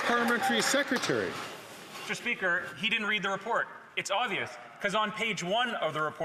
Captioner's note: some Applause